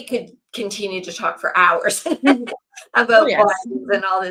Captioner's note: laughs